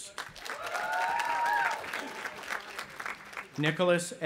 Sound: audience applauding and cheering

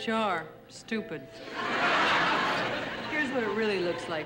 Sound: audience laughing

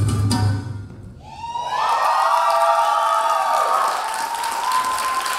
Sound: audience applauding

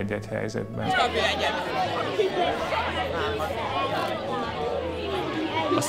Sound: chatter

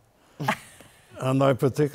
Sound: laughter

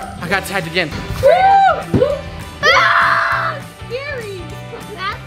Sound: shouting

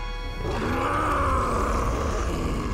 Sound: roaring

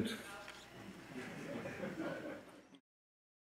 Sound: audience laughing

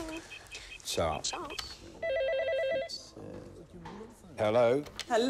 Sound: phone ringing

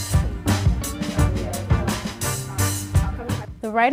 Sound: upbeat music; overlapping chatter

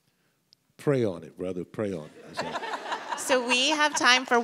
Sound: audience laughs

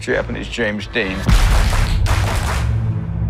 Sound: rhythmic clapping

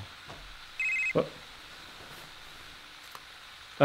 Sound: cell phone ringing

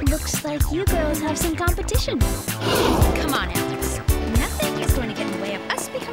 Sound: both gasp

